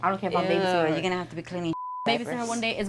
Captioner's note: beep